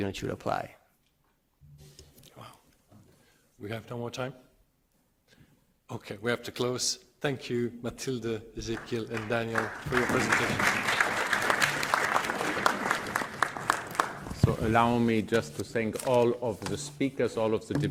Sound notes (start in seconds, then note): 8.6 audience clapping